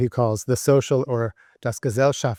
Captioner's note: speaks German